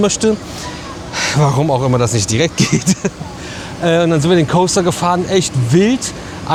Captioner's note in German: gelächter